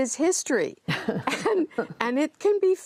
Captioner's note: laughter